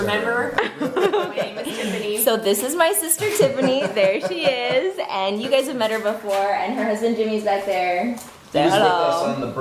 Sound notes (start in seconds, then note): 2.9 laughs; 5.0 man laughs